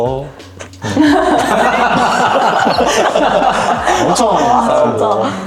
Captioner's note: laughter, laughter, laughter